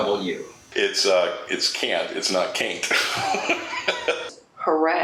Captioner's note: laughs